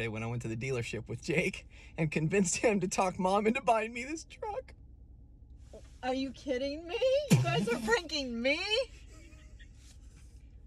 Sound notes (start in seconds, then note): 7.2 laughs